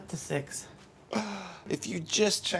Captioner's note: gasps